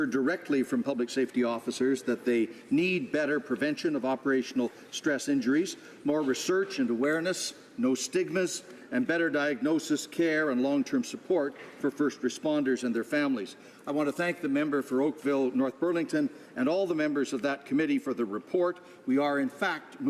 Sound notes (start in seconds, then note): none